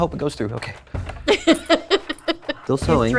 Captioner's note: laughing